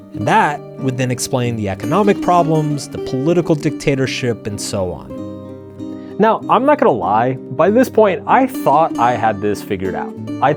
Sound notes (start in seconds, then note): none